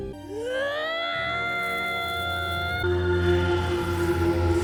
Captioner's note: scream of pain